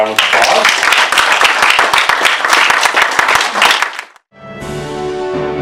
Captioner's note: applause